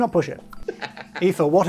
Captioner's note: laughing